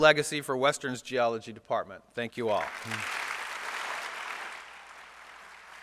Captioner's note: applause